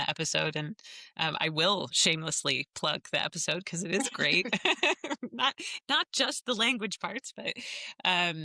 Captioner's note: laughter